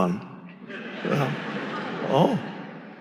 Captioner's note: audience laughing